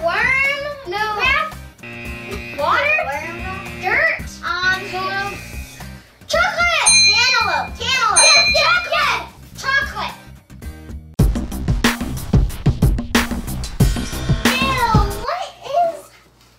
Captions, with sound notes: Worm bath? No. [Buzzer] Water? [Buzzer] Dirt? [Buzzer] Chocolate! [Ding] Cantaloupe, cantaloupe! [Ding] Yes, yes, yes! Chocolate! [Fun music] Ew, what is that?